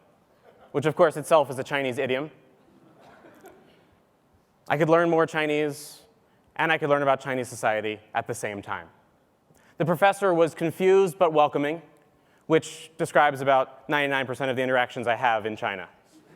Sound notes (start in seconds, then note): 2.9 laugh; 16.1 laugh